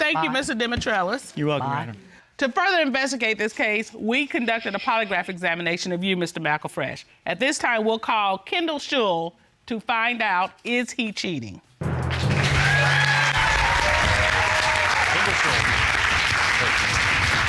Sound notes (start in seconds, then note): 11.9 applause